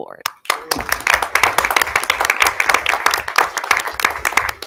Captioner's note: audience applauding